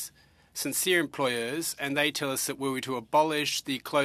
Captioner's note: speaking french